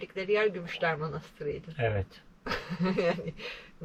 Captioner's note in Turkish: kahkaha